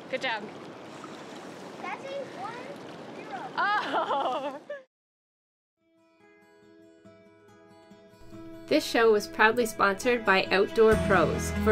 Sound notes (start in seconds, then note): 3.5 laughs; 5.9 bright guitar music